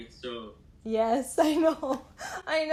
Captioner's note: laughter